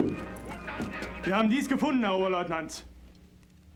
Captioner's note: speaking german